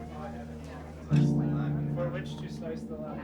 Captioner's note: party chatter